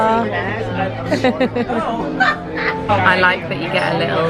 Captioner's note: laughs